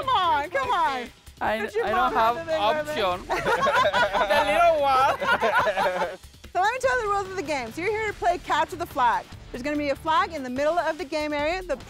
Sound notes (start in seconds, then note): 3.2 laughs; 5.5 laughter